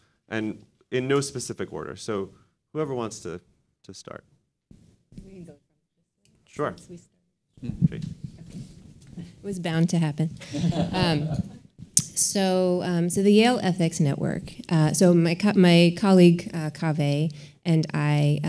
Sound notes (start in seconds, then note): 10.4 all laughing